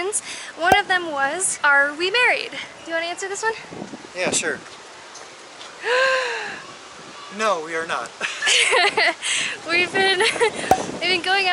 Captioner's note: gasp